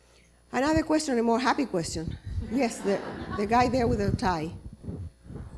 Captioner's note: laughter